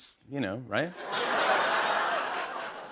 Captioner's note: laughter